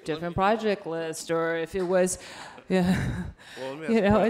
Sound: laughs

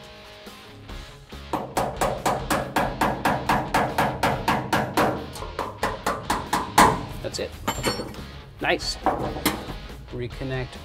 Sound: tapping

